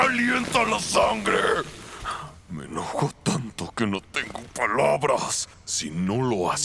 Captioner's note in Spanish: Gruñe